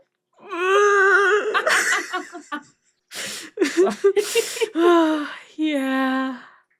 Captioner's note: cries